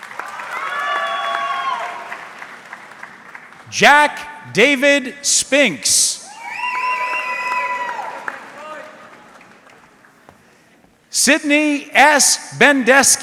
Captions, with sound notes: (audience clapping) Jack David Spinks. (audience cheering) Sidney S. Bendeski.